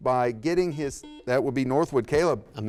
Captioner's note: buzzer beeps